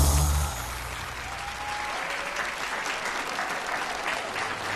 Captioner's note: audience applauding